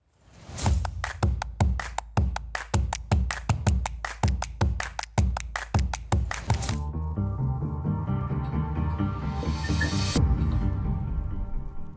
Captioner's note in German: Beifall